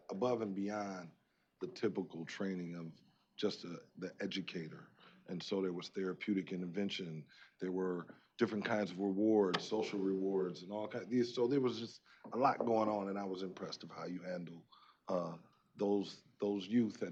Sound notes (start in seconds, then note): none